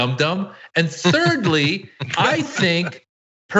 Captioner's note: laugh